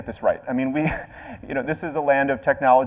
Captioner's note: chuckles